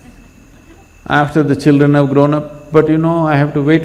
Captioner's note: laughter